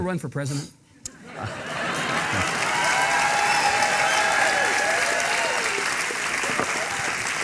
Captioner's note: audience laughing and clapping